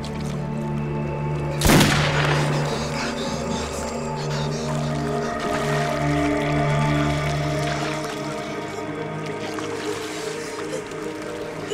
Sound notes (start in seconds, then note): 8.5 boat engine roaring